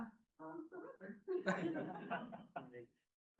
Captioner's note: laughter